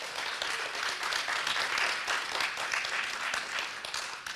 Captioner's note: people clapping